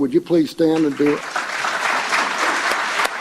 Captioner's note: applause